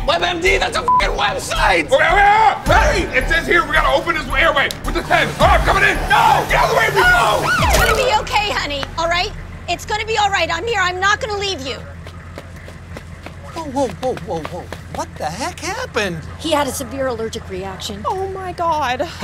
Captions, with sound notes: - WebMD? That's a (beep) website! - Wait, wait, wait, wait! It says here we gotta open his airway with a pen. All right, I'm coming in! - No! - Get out of the way, Rico! - No! (siren wailing) - It's gonna be okay honey, all right? It's gonna be all right. I'm here. I'm not gonna leave you. - Whoa, whoa, whoa, whoa, whoa. What the heck happened? - He had a severe allergic reaction. - Oh my God!